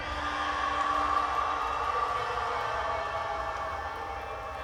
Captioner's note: people yelling